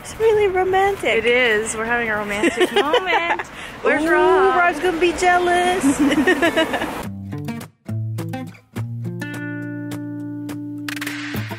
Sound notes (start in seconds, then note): 2.3 laughs; 5.6 laugh; 7.4 upbeat music